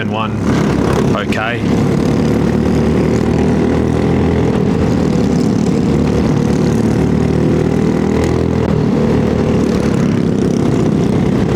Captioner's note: engine noise